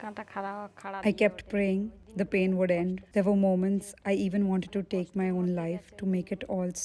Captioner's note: speaking alternate language